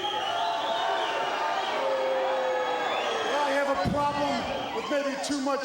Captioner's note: crowd cheering